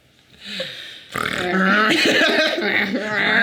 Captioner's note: Sadie laughing; Jarvis making pig noises; Jarvis laughing